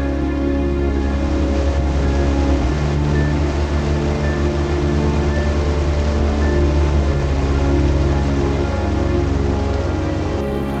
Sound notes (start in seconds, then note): 0.6 heavy rain against boat